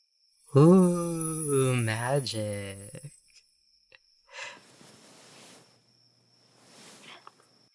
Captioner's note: sparkles